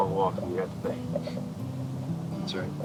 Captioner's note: Allen chuckles